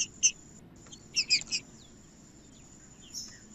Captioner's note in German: trinca ferro cantando